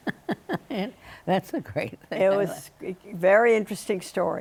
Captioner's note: laughing